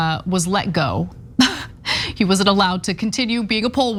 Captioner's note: laugh